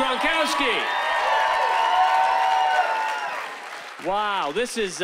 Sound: cheering

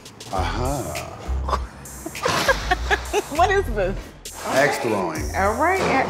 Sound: laughs

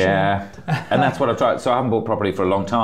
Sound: laughs

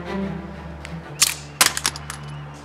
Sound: the magazine falls to the floor

